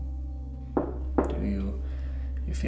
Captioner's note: Dom taps twice